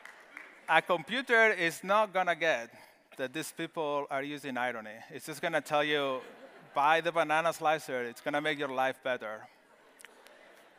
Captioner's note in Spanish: risas